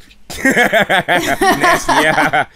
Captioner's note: laughter